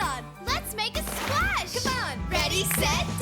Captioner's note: mud splashes